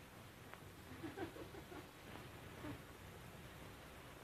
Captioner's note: women giggling